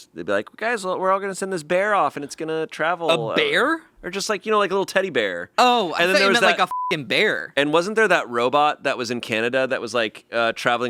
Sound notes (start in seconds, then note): 6.1 beeping